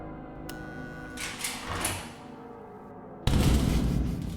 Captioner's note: door buzzes